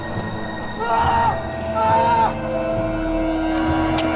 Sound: shouting

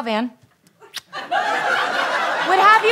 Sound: kiss; audience laughter

